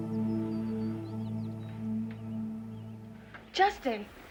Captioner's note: birds tweeting